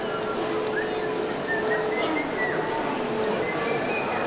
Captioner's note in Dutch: gefluit